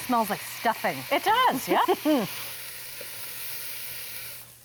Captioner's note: laughs